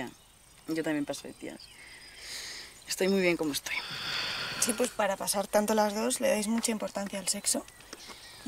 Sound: connection noise

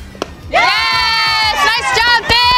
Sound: crowd cheering

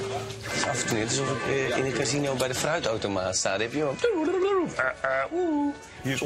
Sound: imitating slot machine noises

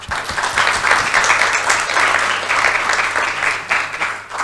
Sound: audience applauds

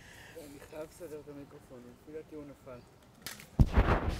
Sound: hebrew

